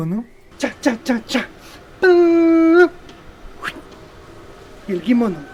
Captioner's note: animated puppet sound, humming